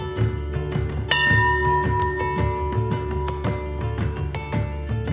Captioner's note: bell ringing